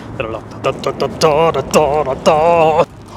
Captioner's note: random Spongebob noises; more random Spongebob noises